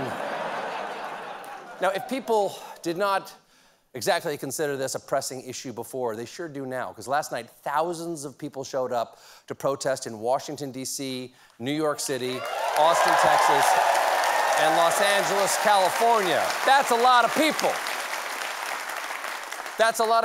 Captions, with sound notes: IF PEOPLE DIDN'T CONSIDER THIS A PRESSING ISSUE BEFORE, THEY SURE DO NOW. LAST NIGHT, THOUSANDS OF PEOPLE SHOWED UP TO PROTESTS IN WASHINGTON D.C.; NEW YORK CITY; AUSTIN, TEXAS; AND LOS ANGELES. CALIFORNIA. ( CHEERS AND APPLAUSE ) THAT'S A LOT OF PEOPLE. THAT'S A LOT OF PEOPLE.